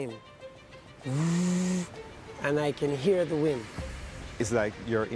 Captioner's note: mimics wind noise